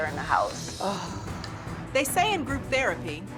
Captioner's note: sighs